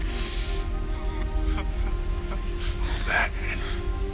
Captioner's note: sobbing